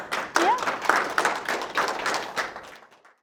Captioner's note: applause